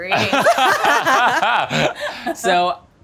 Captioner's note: laughing